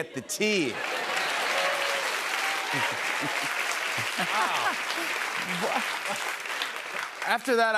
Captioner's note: cheers and applause